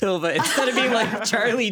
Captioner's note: everyone laughing